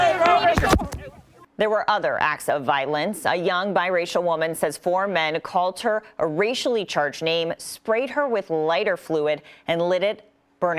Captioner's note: yelling